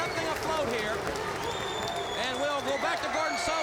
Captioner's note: crowd cheering